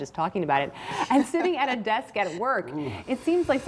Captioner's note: laughter